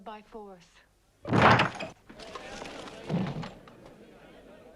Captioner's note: door bursts open